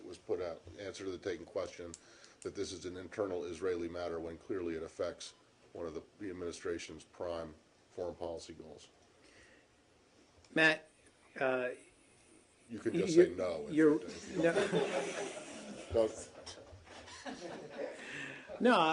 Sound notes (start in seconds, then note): 16.7 laughter